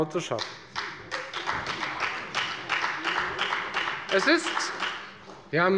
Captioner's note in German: Beifall bei der FDP